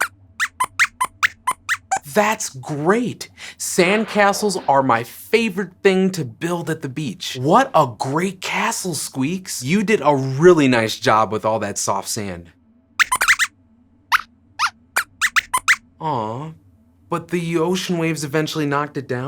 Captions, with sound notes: That’s great! Sand castles are my favorite thing to build at the beach! What a great castle, Squeaks. You did a really nice job with all that soft sand! [Squeaks squeaks] Ah, but the ocean waves eventually knocked